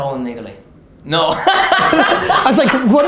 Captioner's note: laughter